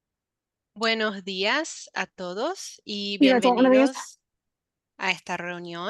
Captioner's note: interpreter speaking in Spanish